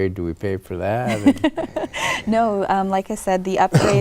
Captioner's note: laughs